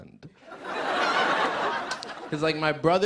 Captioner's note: laughter